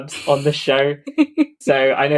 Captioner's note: laughs